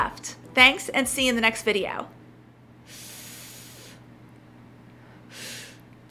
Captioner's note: inhales deeply